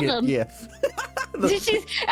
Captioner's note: laughter